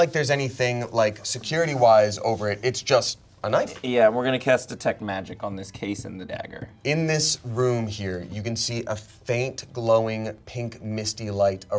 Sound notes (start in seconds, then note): none